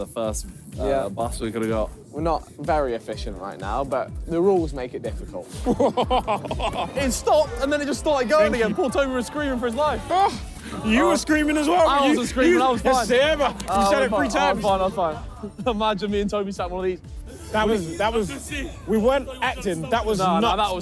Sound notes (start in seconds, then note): 5.8 laughing